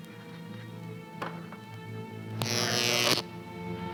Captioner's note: buzzer